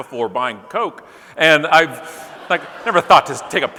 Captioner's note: audience laughing